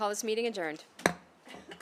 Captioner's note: gavel hitting dais